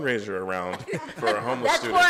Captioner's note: laughter